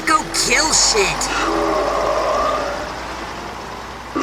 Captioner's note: Coat Pyro sighs, annoyed